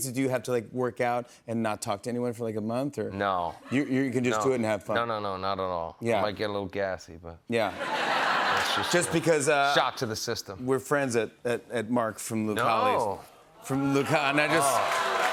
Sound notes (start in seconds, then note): 7.7 laughter